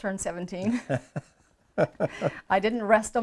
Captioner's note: both chuckles